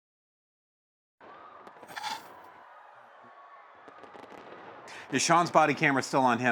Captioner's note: distant people screaming